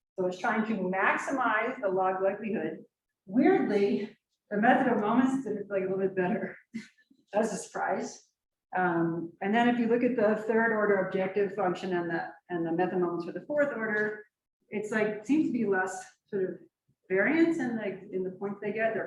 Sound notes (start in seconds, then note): 7.1 chuckles